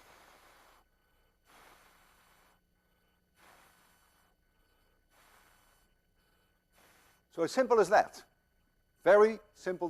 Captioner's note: blowing